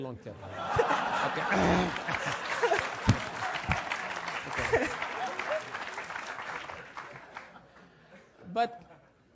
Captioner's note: laugh; applause